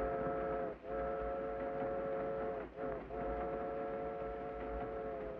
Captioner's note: train horn whistles